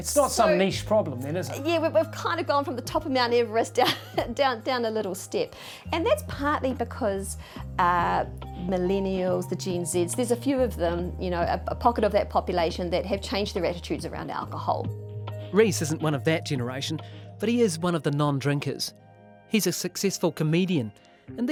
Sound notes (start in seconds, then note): 3.7 chuckles